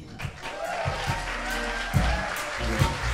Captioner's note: crowd applauds